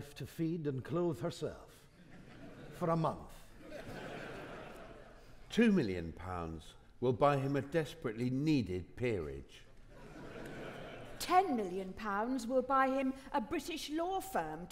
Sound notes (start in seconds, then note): 3.6 audience laughing; 9.9 audience laughing